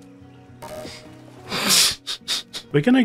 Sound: laughing

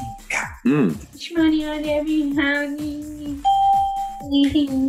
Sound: ding; hums; ding; hums

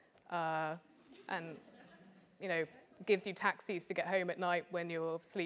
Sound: laugh

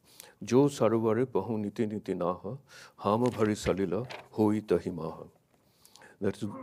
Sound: speaks in a foreign language

